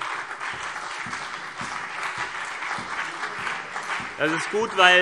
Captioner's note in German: Beifall CDU und BÜNDNIS 90/DIE GRÜNEN